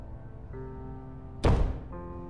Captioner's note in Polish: Stukanie